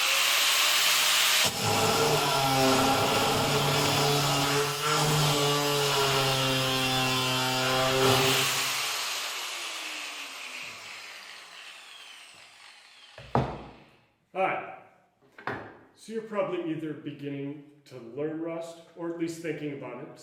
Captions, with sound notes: (Sound of metal grinding) Hi So you're probably either beginning to learn Rust, or at least thinking about it,